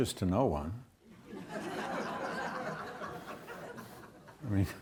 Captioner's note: audience laughs